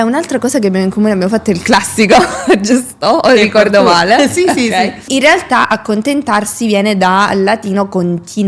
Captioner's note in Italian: risate